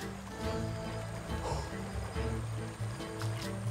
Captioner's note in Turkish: Nefes sesi